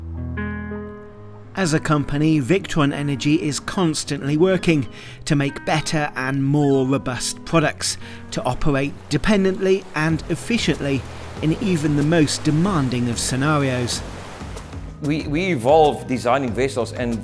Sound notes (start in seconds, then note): 0.2 gentle music; 14.0 gentle music; 14.0 water splashing